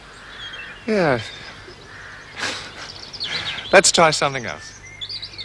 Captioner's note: chuckling